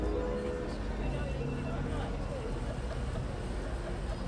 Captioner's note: indistinct chatter